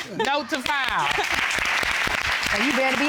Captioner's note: audience applauds